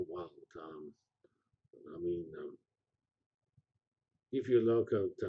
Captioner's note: pause